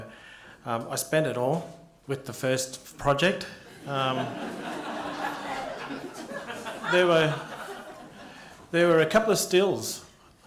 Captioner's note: laughter